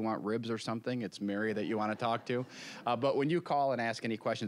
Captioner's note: audience chuckling